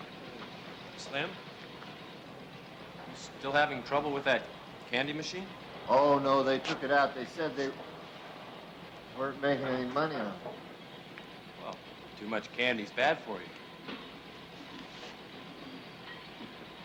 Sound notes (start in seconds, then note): none